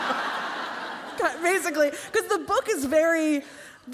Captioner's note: laughter